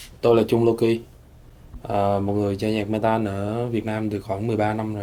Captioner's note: speaking foreign language